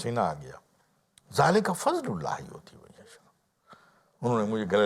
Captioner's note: Arabic